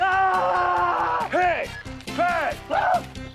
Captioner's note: yelling